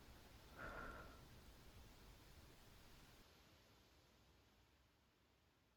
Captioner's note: breaths out and end